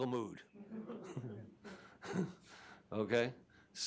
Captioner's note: chuckling